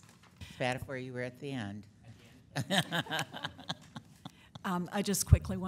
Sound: board laughing

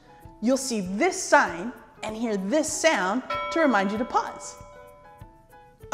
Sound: ding

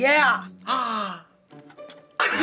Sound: gasping; laughing

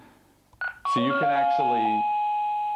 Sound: chime

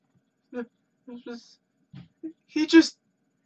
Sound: stammers

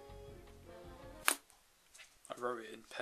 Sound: pen Drop!

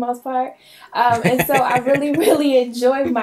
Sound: laughing

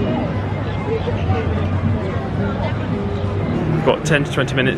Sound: guests chattering indistinctly; birds chirping

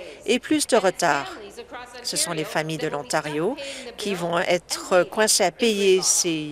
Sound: none

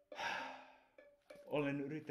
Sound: sighs

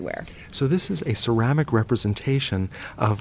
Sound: voiceover

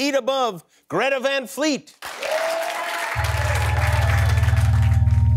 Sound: audience applauds

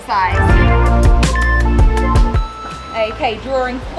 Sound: timer beeping; waves whooshing

